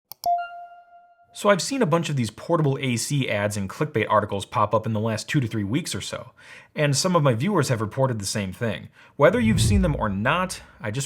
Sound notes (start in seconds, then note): 0.0 mouse clicking